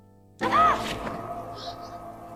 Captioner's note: Sienna gasps in surprise